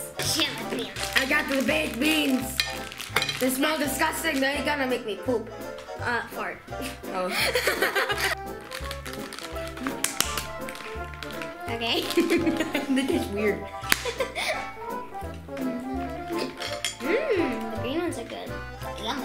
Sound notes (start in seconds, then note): 6.8 giggles; 8.8 upbeat music; 11.9 giggles